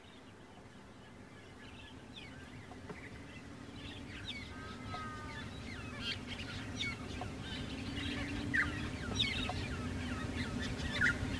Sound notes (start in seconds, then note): 4.1 birds singing